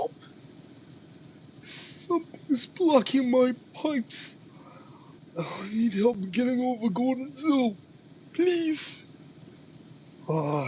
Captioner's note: inhale